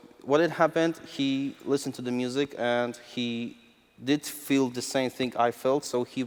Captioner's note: none